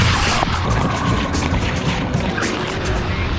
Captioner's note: splashing water